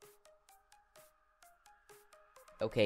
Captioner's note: awkward silence